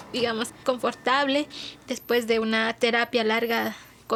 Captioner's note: speaking Spanish